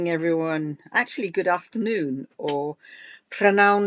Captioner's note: speaks Welsh